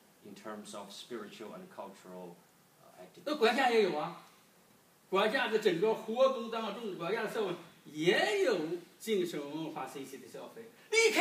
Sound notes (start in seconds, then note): 3.8 speaking foreign language